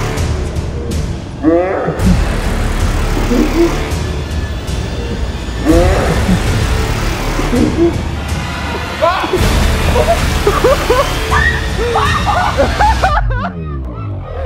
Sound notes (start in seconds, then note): 0.0 intense music; 11.2 screams